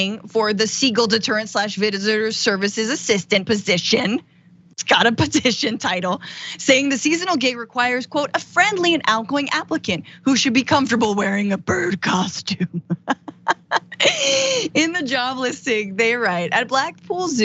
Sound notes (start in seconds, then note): 12.4 laugh